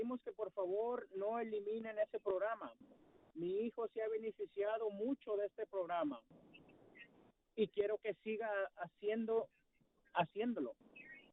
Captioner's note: speaking spanish